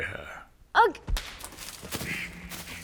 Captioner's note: twig snaps